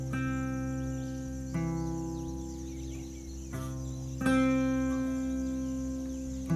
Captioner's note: insect sounds, birds chirping